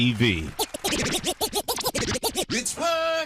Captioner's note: record scratching